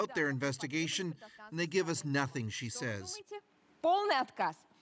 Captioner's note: speaking russian